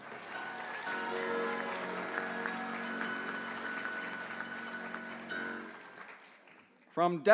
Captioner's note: applause